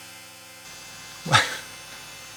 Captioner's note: laugh